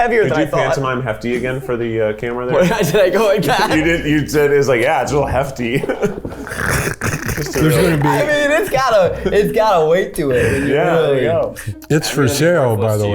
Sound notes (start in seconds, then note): 5.0 group chuckles